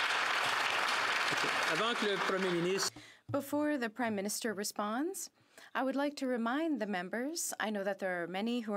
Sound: some Applause

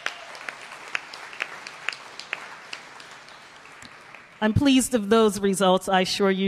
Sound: applause

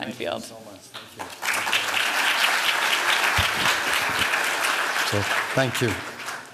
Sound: applause

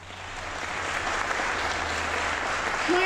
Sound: applause

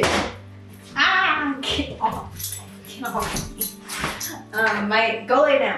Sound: collar shaking

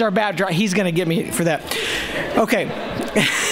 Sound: laughter

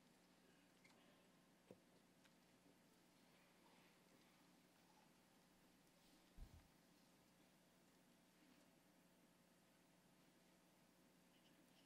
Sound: speaking spanish

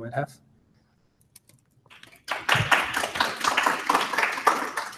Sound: applause

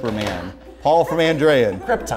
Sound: beeping

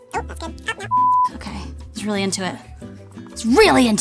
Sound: beep

